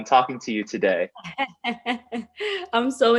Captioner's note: laughs